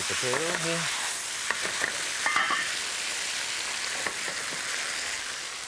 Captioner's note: potatoes sizzling